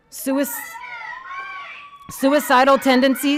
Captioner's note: protestors interjecting